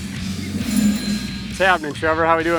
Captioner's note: bicycle bell ringing